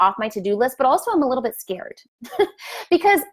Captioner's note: laughs